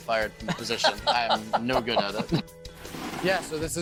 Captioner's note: laughing